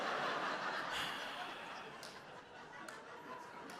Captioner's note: audience laughs; exhales